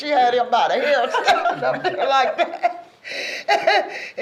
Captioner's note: laughing